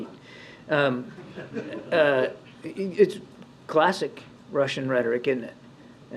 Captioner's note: laughter